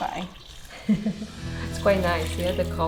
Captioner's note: laughing